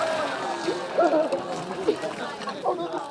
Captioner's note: cheering